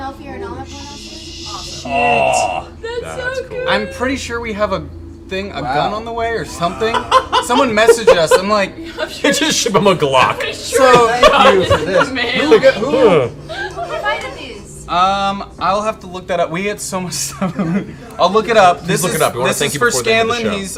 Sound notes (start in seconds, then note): 10.4 laughs; 10.7 laughter